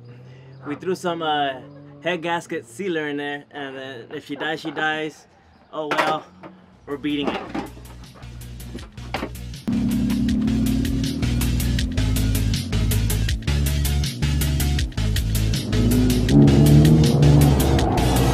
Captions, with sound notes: we threw some, uh, head gasket sealer in there and then if she dies, she dies. Oh, well. We're beating it. (upbeat electronic music) (engine roaring)